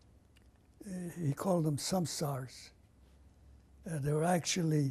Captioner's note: non-english